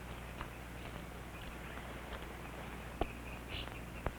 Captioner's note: birds chirping